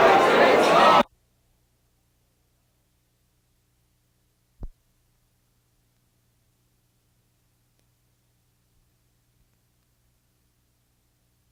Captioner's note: silence